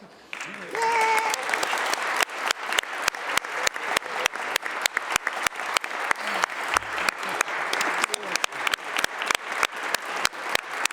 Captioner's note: applause